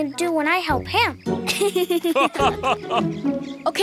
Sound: giggling

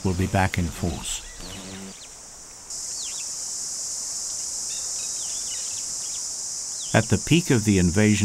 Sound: birds chirping

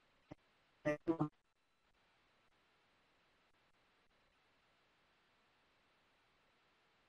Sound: audio dropping out; no audio

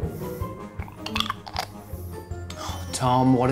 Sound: gurgling

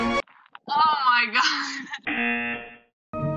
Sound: tense music; buzzer rings

